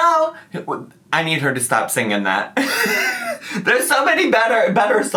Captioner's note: laughs